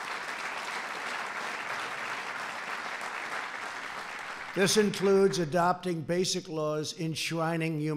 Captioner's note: applause